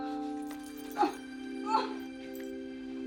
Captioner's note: groaning